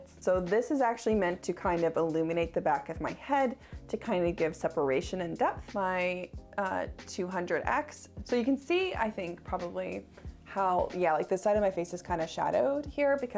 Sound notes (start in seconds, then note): none